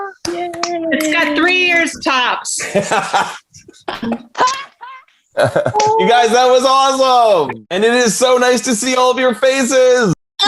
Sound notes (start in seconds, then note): 0.2 clapping; 2.8 actors laughing